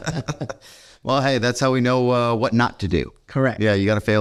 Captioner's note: both laughing